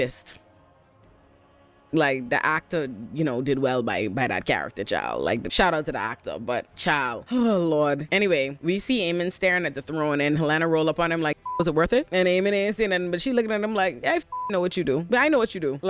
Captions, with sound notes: Like the actor, you know, did well by that character child. Like the shout out to the actor, but child, oh Lord. Anyway, we see Amen staring at the throne and Helena roll up on him like, (beep) was it worth it? And Amen is in it, but she looking at him like, I (beep) know what you do. But I know what you do.